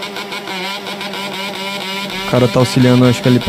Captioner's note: motorcycle snoring